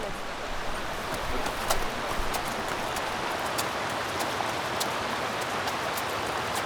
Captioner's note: hooves clomping; water rushing